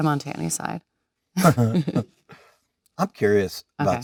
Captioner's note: Leonardo and Jennifer giggling